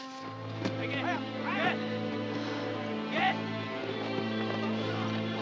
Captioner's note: shouting in Japanese